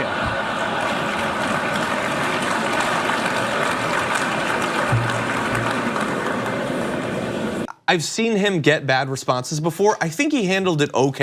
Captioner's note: applause